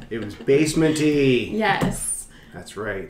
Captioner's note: laughing